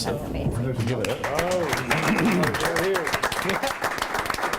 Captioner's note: group applauds